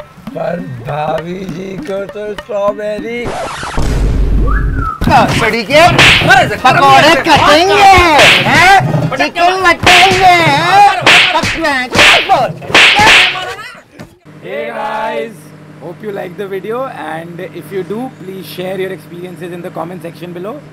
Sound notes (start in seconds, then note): 6.6 beating Noises